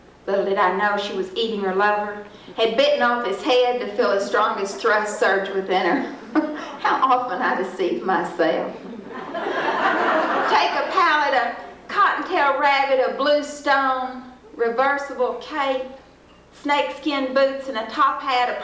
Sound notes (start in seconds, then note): 6.1 chuckles; 8.8 laughter